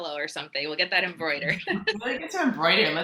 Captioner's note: laughs